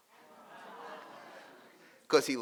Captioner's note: audience marveling